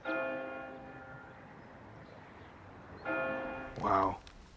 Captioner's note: church bells chiming